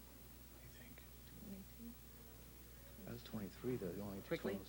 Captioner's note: whispering